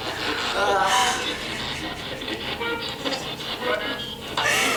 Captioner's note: crying